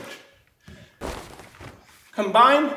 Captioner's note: snapping